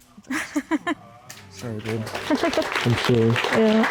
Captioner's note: laughs